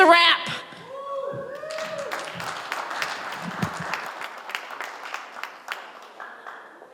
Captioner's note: applause